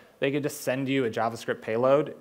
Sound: none

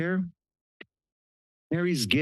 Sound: pause

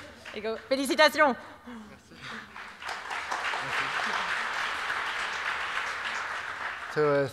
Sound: applause

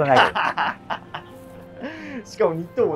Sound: laughing

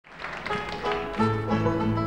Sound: audience applauds

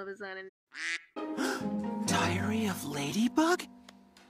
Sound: quack; gasp

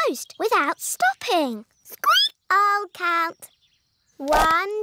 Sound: squeaks

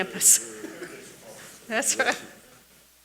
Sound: laughs

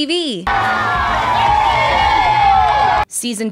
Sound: cheers

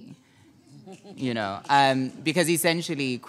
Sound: audience member clapping; panelists chuckling

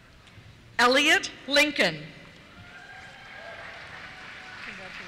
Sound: cheers

